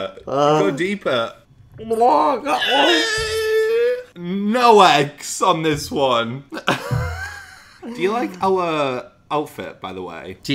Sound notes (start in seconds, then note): 2.3 gargling; 6.5 laughs